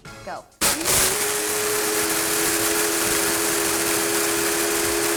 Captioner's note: blenders whir